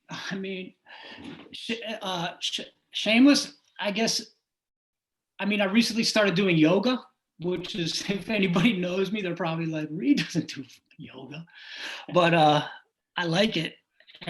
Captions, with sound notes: (chuckling) I mean... Shameless, I guess... I mean, I recently started doing yoga, which is, if anybody knows me, they're probably like, (scoffing) "Reed doesn't do yoga." But I like it.